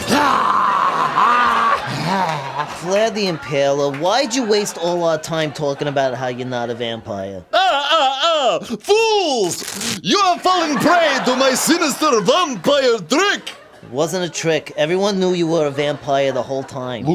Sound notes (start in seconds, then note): 0.0 Vlad exclaims; 1.8 Gargamel moans